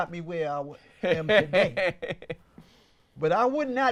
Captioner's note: laughs